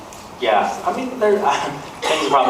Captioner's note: laughs